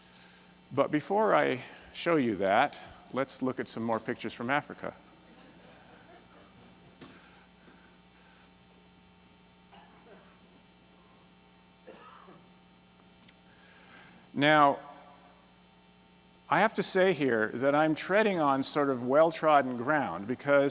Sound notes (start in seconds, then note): 5.2 laughter